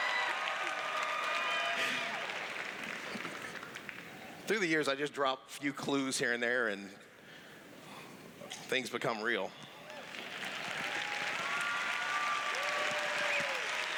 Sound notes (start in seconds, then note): 0.0 cheers; 9.8 cheers; 13.2 applause